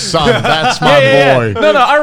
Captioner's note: laughing loudly